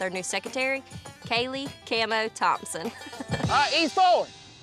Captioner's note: giggles